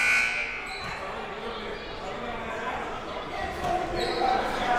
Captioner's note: buzzer sounding